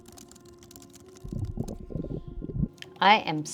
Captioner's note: stomach gurgle